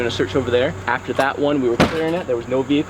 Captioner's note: door slamming